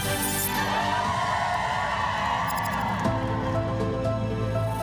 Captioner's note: cheering